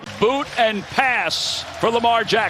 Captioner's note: cheers and applause